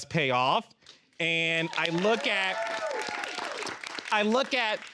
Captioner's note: all cheering